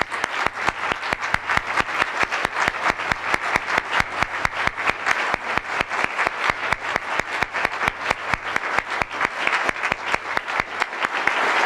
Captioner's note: applause